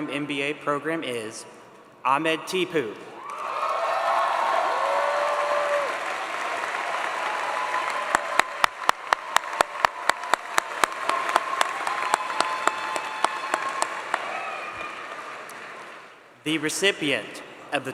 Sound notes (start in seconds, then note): 12.2 applause